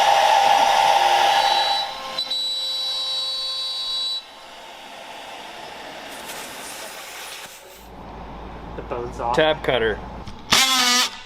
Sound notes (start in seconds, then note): 2.2 very sharp machinery noise